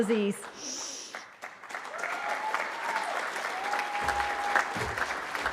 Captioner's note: cheering